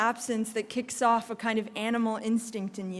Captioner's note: none